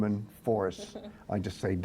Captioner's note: laughter